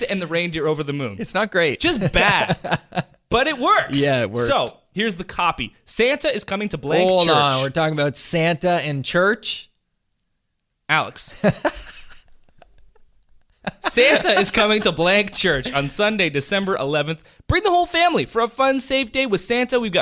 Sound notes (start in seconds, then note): 1.9 laughs; 11.4 laughing